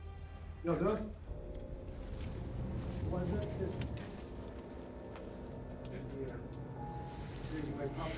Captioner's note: ratchet talking outside